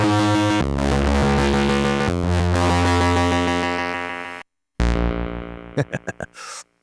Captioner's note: laughs